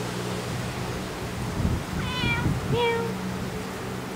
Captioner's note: meow